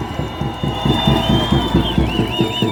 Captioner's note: cheers and applause